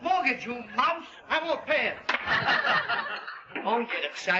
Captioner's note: hand smacking